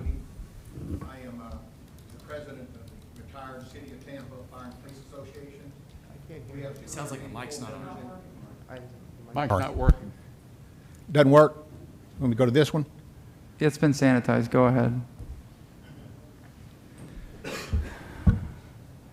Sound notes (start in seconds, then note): 9.1 off microphone